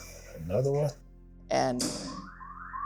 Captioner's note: station tones